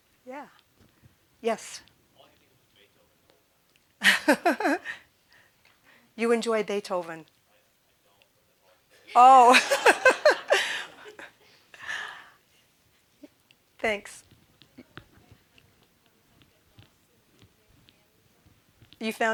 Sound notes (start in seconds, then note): 2.2 chuckling; 9.1 all laughing